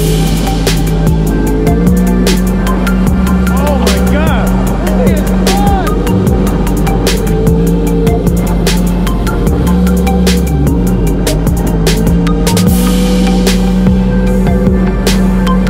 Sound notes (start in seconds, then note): 0.3 engine running; 0.3 techno music; 8.0 engine running; 8.0 techno music